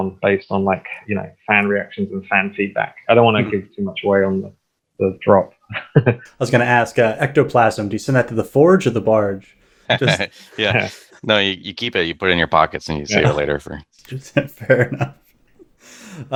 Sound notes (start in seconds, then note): 5.6 laughs